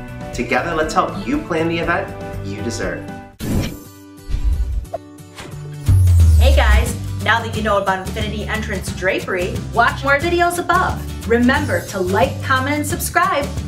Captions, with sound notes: Together let's help you plan the event you deserve. (air whooshing) (upbeat music) - Hey guys, now that you know about infinity entrance™ drapery, watch more videos above. Remember to like, comment, and subscribe.